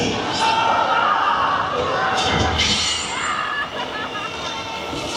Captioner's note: dinosaurs growling continues